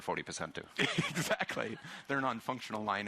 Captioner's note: chuckling